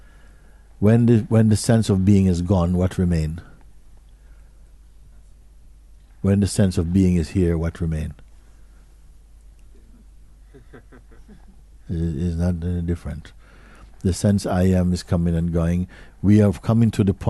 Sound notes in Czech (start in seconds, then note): 10.5 smích